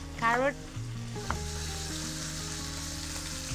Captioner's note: sizzling